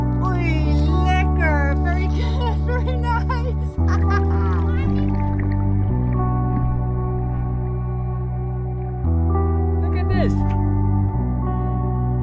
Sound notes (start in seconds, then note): 0.4 talking Dutch; 3.7 laughs